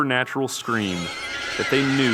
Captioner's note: creature screaming